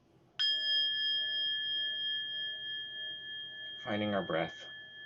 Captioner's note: bell chiming